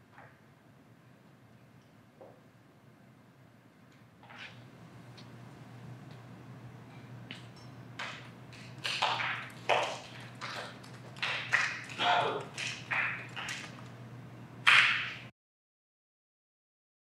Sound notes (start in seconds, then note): 8.7 weak audience applause